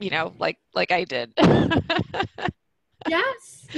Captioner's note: laughs